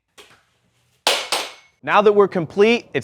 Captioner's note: broom falling